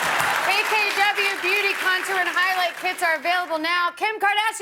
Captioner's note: cheers and applause